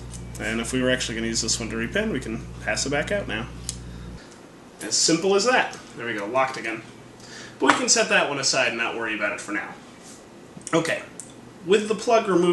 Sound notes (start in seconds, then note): 3.6 click